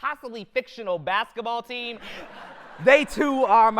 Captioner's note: audience laughter